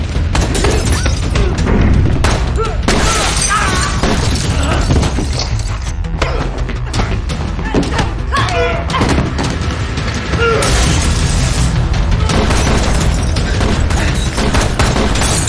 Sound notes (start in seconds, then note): 1.7 guns firing; 2.9 glass shattering